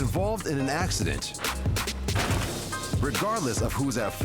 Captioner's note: crash